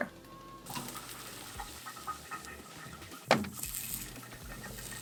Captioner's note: food sizzling